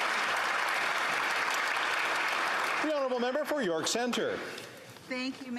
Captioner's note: applause